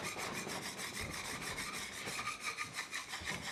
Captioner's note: tool scraping